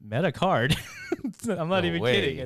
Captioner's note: laughs